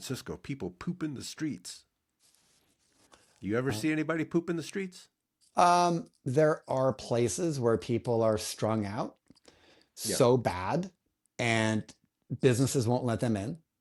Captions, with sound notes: (Blank Audio) There are places where people are strung out so bad and businesses won't let them in.